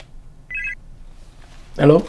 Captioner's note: phone ringing